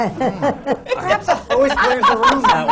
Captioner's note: laughter